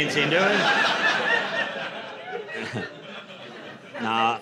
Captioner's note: laughter